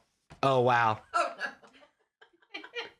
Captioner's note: laughing